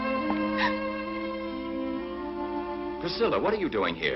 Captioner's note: Priscilla gasps